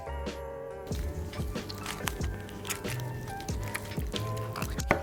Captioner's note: squishy sounds; cutting sounds